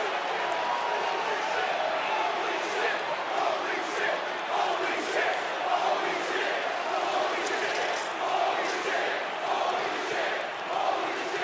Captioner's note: crowd chants